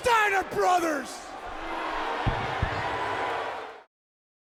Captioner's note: crowd yelling